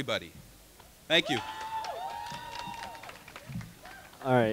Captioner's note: crowd cheering